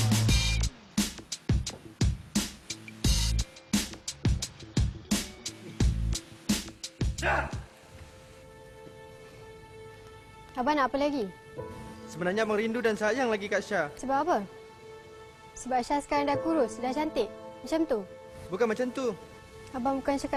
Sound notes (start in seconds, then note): 0.0 upbeat music; 7.6 man shouts in foreign language; 10.8 speaking in foreign language